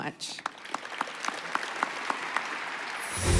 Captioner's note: applause